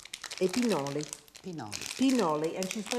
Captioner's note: speaking Italian